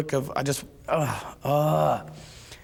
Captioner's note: groans